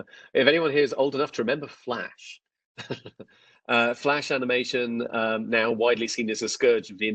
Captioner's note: laughs; laughs